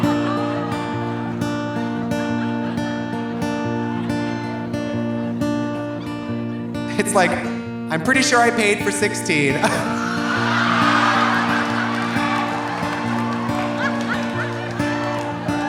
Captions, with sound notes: (audience laughing) (audience groaning) It's like, I'm pretty sure I paid for 16. (audience laughing) (audience groaning)